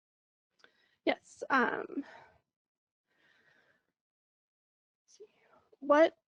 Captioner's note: pause